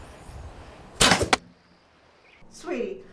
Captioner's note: bows snapping